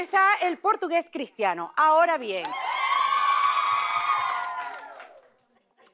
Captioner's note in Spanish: Ovación